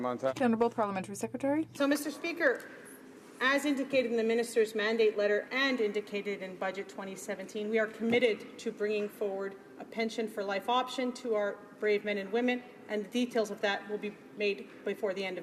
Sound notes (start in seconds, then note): 5.9 speaking in french